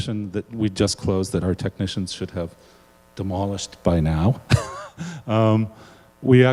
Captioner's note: laughs